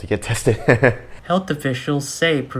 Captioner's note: laughing